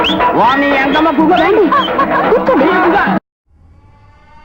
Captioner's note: laughter among the audience